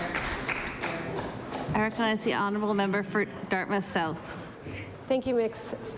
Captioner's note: applause